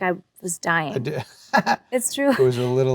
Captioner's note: Adam laughs